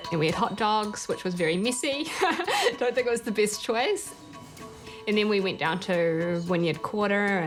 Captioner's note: chuckles